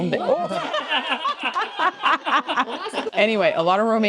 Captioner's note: laughing